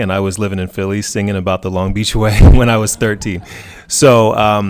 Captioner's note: laughs